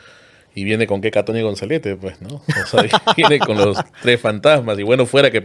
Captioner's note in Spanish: risas